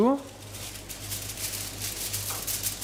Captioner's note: rustling